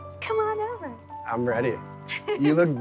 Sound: laughs

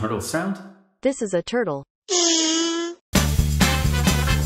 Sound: turtle Sound

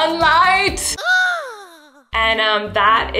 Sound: voice gasps

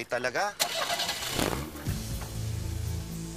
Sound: car starts

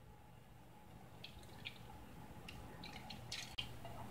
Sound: gurgling sounds

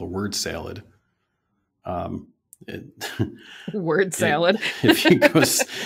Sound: laughter

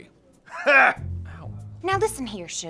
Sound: Wolverine laughs sarcastically

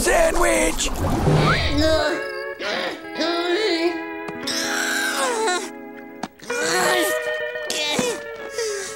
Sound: groaning

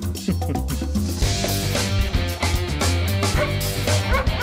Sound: chuckling

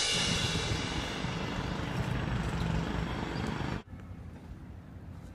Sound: car noises

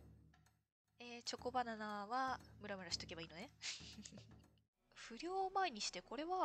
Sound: laughs

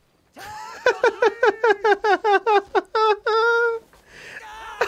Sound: laughs

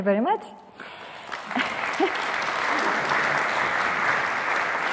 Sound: audience applauding

